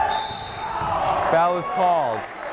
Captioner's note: whistle blowing